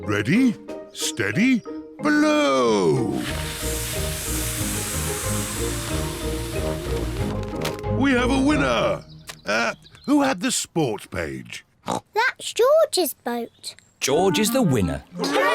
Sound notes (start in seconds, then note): 3.1 all blow